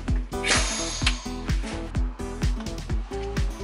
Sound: whooshing

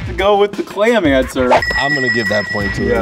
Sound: bell ringing

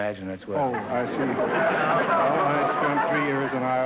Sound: audience laughter

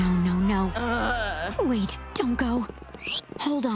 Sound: groaning

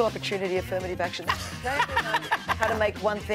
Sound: laughing

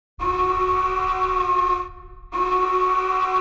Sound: alarm blaring

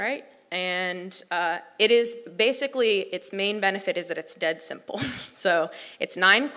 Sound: laugh

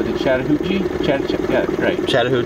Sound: stammering

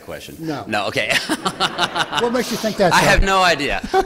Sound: laughter

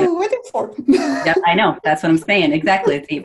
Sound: chuckles

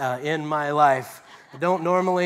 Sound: laughter

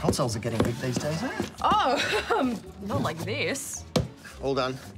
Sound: laughs

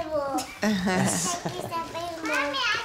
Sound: laughs

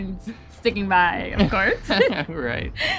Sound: laugh

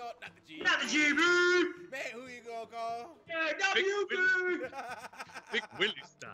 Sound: laugh

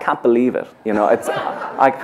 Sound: clap; laughter

